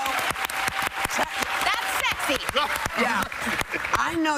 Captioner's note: cheers and applause